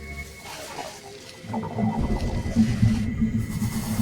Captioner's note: creature chittering